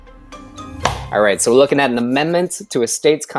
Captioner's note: claps